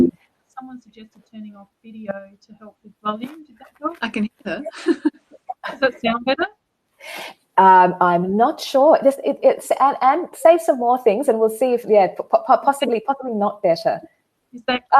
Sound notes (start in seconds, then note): 4.4 chuckles